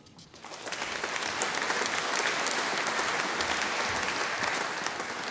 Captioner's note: audience applauding